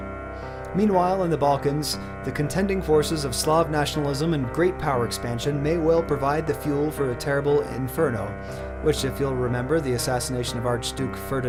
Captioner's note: reading text aloud